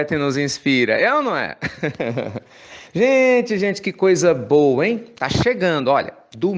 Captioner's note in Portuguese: risos